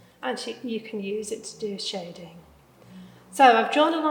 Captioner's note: none